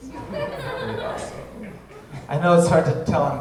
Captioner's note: audience laughing